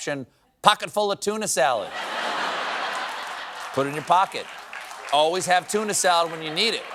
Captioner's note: laughter